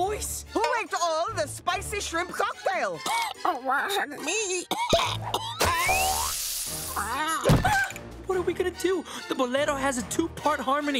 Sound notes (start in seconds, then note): 4.6 coughing; 4.8 coughing, sizzling, squawking